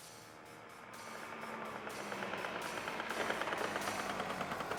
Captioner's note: engine roaring